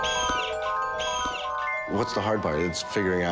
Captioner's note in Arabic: صوت طنين ميكانيكي